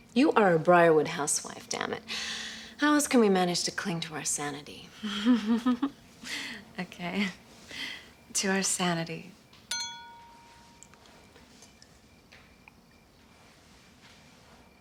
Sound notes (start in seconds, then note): 5.0 chuckling; 9.6 glass clinking